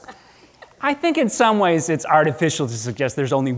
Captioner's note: audience chuckling